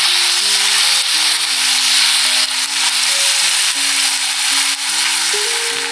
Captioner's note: sizzling in hot oil